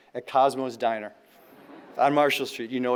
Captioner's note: audience laughing